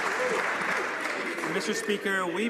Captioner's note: some Applause